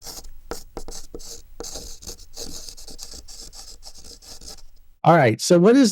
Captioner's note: chalk on Chalkboard